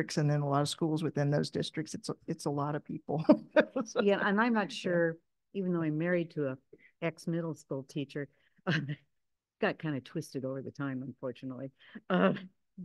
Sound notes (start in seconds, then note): 3.2 chuckles